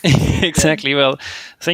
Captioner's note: laughs